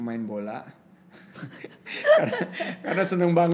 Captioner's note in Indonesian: tertawa